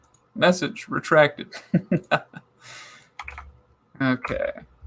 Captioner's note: chuckling